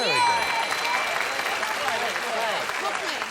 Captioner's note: ding